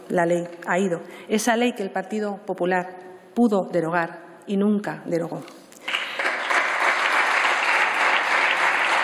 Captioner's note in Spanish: Aplausos